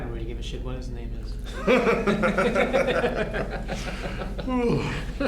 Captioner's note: officers laughing